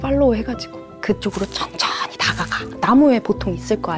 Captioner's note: whispers